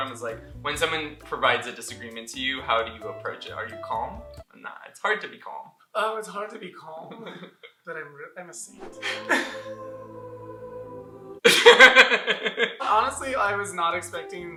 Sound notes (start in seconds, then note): 8.8 dramatic music; 11.4 laughter